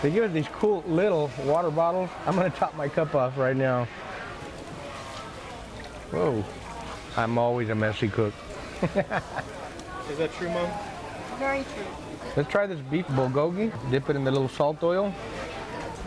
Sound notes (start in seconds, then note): 8.6 laughs